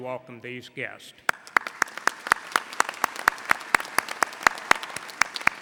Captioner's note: audience applauding